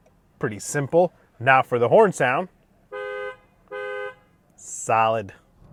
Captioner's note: turning signal clicking; horn honking